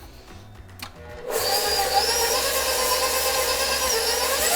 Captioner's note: whirring